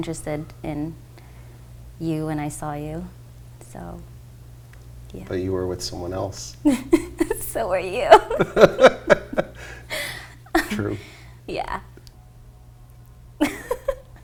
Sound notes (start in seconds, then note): 9.3 laughs